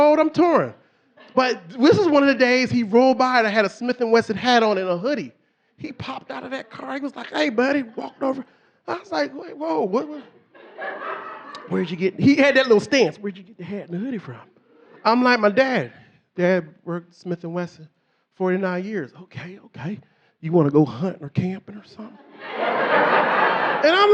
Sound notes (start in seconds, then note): 10.0 audience laughing